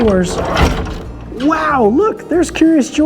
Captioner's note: doors racketing